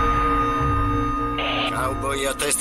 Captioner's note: static buzzing